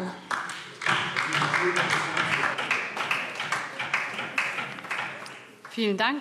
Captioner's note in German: Beifall DIE LINKE